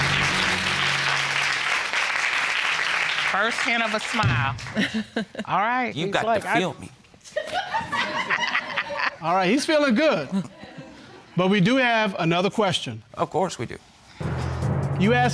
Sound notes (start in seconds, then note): 0.0 audience applauding; 7.4 loud, scattered laughter